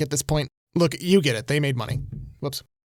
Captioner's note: light thud